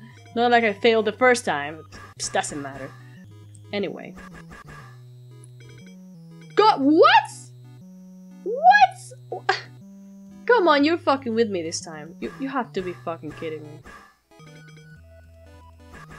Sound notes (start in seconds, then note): 8.8 laughs with disbelief